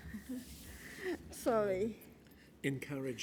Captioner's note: laugh